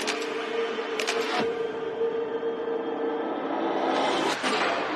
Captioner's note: shutter clicking